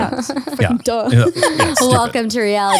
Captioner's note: laughs